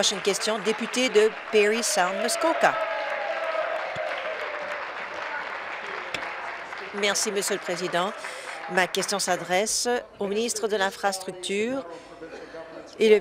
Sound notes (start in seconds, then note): 1.6 applause; 6.3 applause and cheering